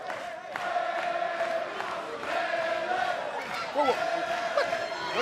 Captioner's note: fans chanting